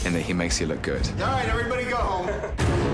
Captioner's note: chuckling